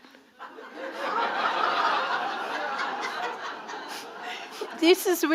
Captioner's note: audience laughing